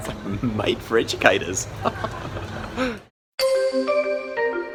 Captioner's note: laughs; upbeat music